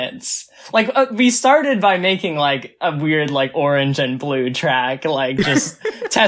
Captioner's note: laughs